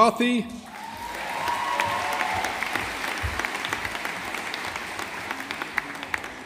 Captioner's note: audience applauding